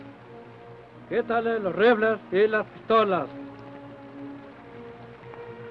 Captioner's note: Chief speaks foreign language